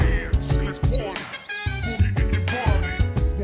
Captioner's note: mouse squeaking